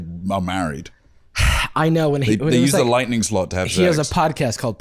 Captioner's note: sighs